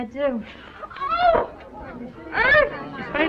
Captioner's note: shocked reactions